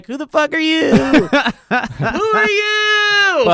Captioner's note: laughing